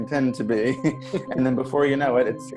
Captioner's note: collective laughter